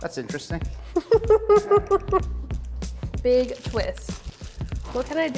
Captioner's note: chuckles